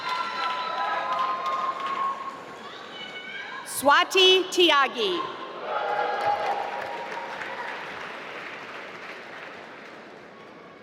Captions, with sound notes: Swati Tyagi (applause)